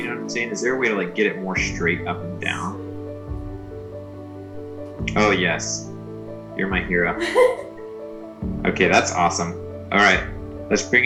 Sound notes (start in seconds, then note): 7.1 laughs